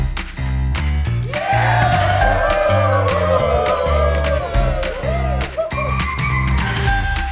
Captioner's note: cheers